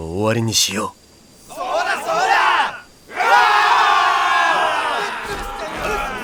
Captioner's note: shouting in agreement